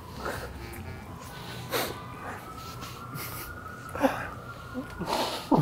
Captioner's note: sirens blaring outside; laughing, mouth full